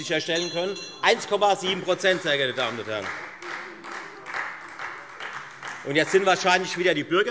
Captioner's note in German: Beifall Freie Demokraten - Unruhe - Glockenzeichen